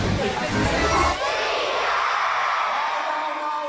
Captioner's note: cheers